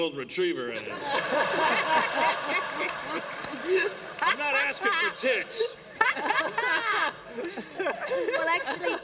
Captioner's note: laughter; laughter